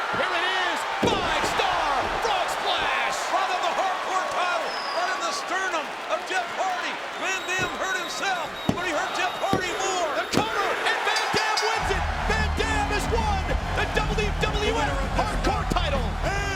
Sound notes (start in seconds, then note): 9.4 mat slapping; 12.1 bell ringing